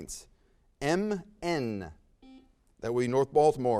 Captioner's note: buzzer sounds